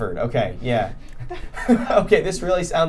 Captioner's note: laughing